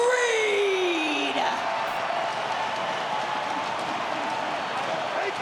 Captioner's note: crowd cheering